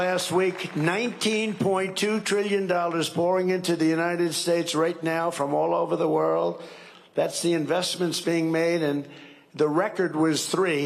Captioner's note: cheering and applause